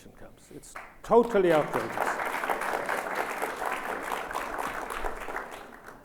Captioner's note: audience applauds